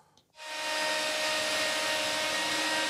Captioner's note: machine noise